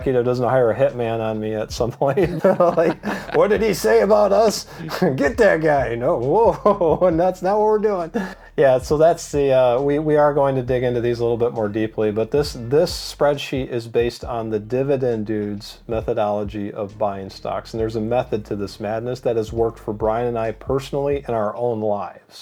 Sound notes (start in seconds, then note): 1.8 laughing